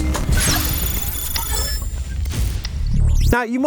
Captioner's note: logo buzzing